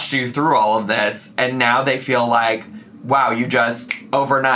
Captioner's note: snaps fingers